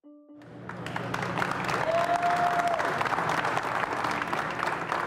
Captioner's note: group applauding